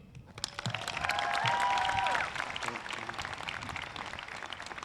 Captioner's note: audience claps